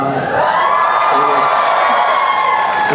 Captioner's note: cheering